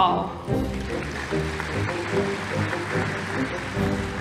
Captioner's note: audience applauding; light orchestral music